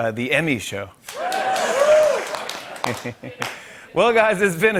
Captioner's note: cheers and applause